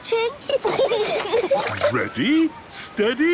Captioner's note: giggling